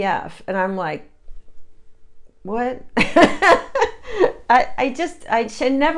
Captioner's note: laughs